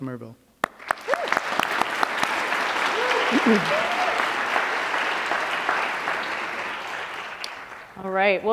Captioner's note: applause